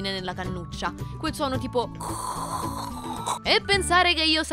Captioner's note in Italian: Fraffrog emette un suono